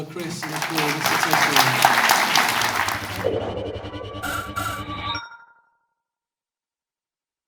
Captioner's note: audience applause drowns out interviewer